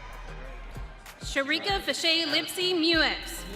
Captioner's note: audience cheering